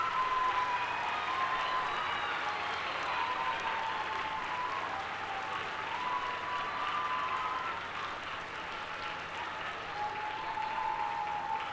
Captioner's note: applause